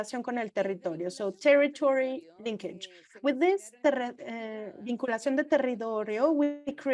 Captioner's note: foreign language